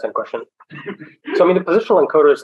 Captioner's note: laughter